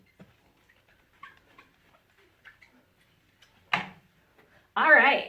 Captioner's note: eraser squeaks